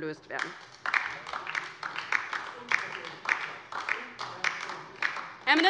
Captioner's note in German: Beifall : Unverschämt ist das!